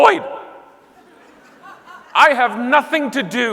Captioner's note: audience laughing